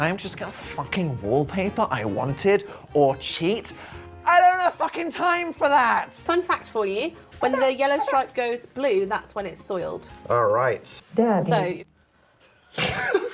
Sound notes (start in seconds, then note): 11.2 TTS voice